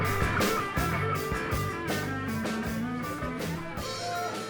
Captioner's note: none